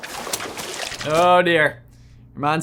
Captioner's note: wings flapping; water sloshing